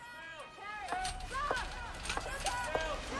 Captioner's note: staff shouting